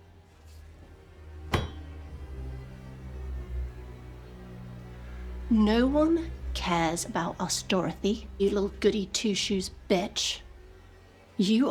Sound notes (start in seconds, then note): 1.5 brooding music continues; 1.5 pipe thuds